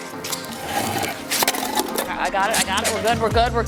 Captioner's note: ice thudding